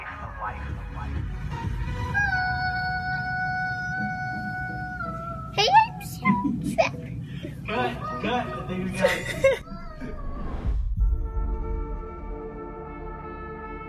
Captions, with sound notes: (gentle music) (child babbling) - Cut, cut, baby girl. (gentle music)